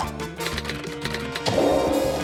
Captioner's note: plays scale; keys clack; thwong!